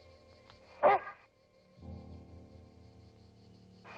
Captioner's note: dog barking